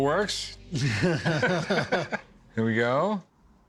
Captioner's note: laughter